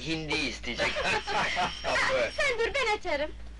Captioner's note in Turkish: Kahkahalar